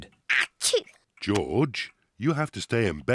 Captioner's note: sneezes